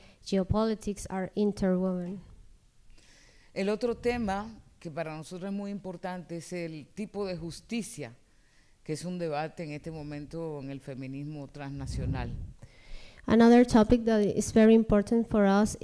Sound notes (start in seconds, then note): 3.4 speaking spanish